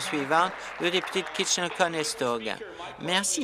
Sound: applause

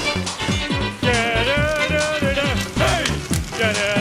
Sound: sizzling + mario singing

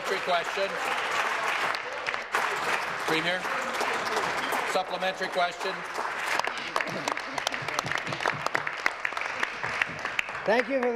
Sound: applause

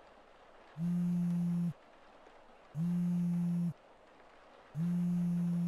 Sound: phone buzzes

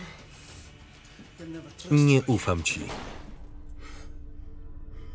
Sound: gun firing

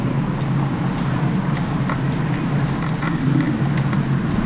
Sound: wind whirring

